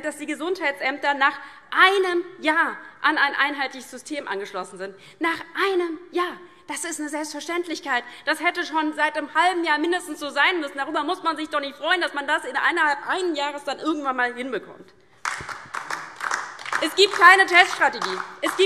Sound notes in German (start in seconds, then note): 15.2 Lebhafter Beifall DIE LINKE